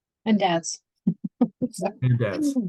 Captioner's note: chuckles